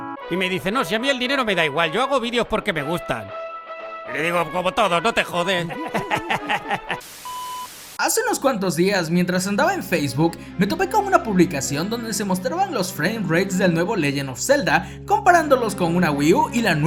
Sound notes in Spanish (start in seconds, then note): 5.6 Risas